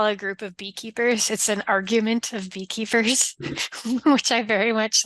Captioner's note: laughs